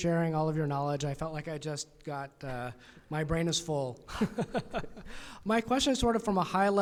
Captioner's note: laughs